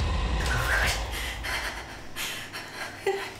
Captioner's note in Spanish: Respiración